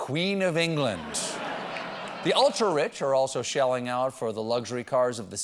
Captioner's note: laughter